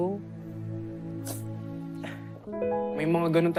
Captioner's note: sniffles